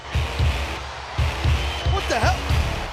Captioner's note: crowd cheers; rock music plays